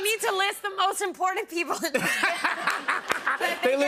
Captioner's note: laughter